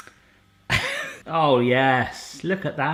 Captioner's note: laughing